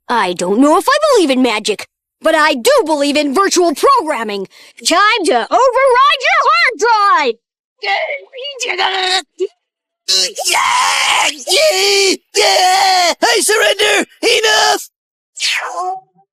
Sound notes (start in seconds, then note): 10.1 squealing